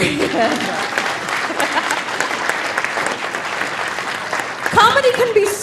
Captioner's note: audience applauding; laughing